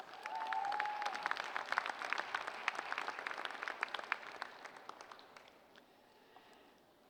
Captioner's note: applause